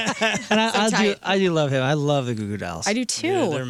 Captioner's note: laughing